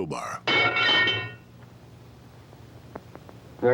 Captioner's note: clanking